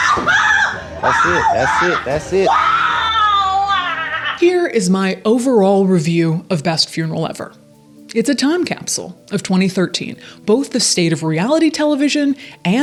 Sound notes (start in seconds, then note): 0.7 person crying